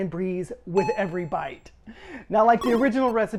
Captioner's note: bell chimes